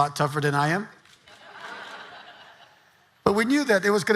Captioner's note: audience laughing